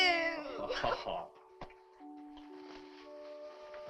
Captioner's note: Chase laughs